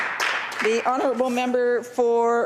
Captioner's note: applause